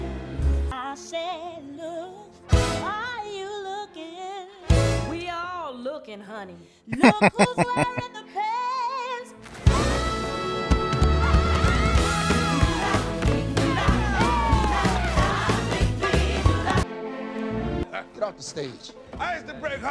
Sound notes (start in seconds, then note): 6.9 laughing